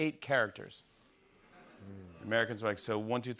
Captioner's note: audience murmuring